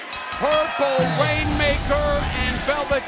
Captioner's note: bell ringing